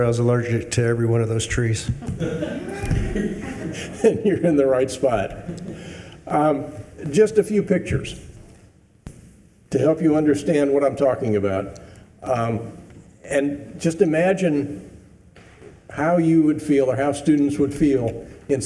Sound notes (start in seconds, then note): 2.0 attendees laughing